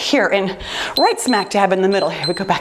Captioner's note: timer beeps